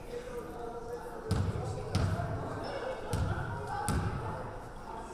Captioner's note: background chattering